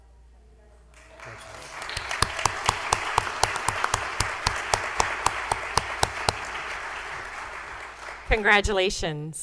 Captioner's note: applause